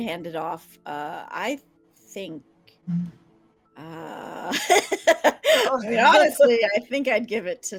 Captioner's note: laughing